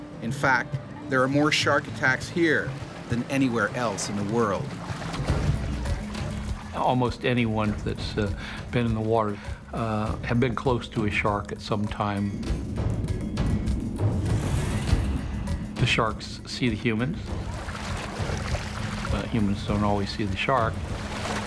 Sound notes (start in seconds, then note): 5.1 splashing; 12.3 tense drumming music; 21.2 splashing